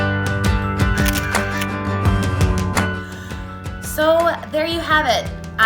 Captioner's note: camera snapping